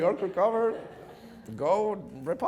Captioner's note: audience laughing